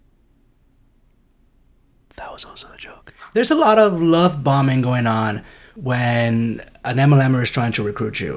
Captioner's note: whispering